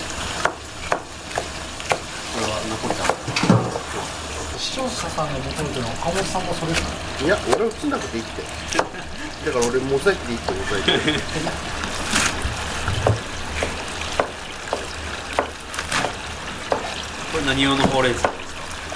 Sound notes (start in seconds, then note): 10.6 laughs